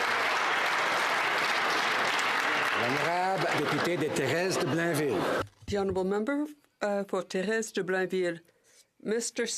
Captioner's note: applause